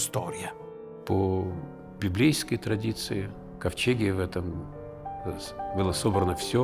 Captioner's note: Aleksandr Sokurov, in Russian